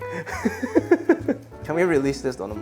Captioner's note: laughs